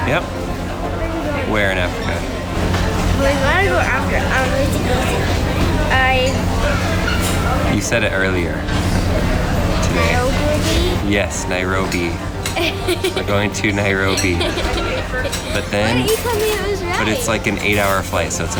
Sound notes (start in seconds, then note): 12.3 laughs